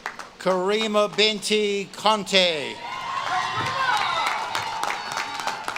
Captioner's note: audience claps and cheers